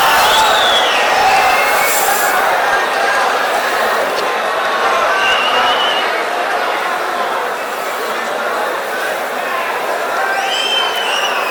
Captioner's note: wild applause and cheering for 22 seconds